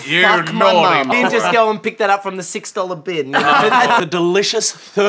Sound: laughter

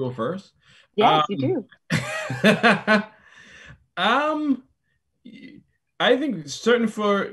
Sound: laughs

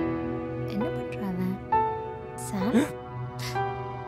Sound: gasps

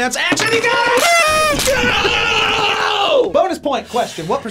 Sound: horns blowing

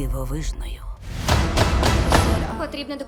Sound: stomping

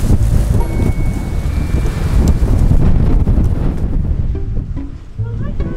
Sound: wind

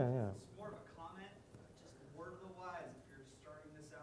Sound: none

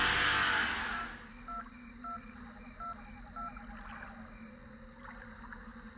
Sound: phone number dialing

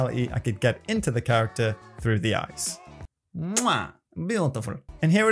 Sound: kisses

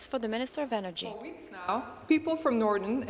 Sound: speaking in french

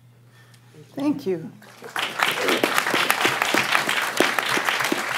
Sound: applause

